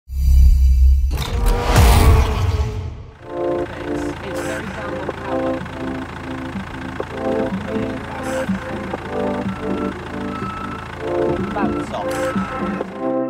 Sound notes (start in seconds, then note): 0.3 woosh; 1.3 vroom